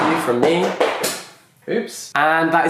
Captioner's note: book crashing